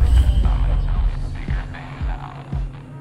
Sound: ominous voice

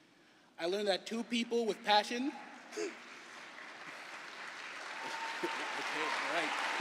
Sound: cheering and applause

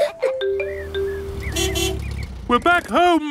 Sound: laughs; horn honking

